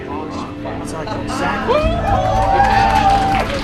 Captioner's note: cheering